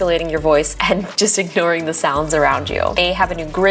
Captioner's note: chuckles